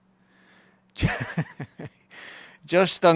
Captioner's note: laughs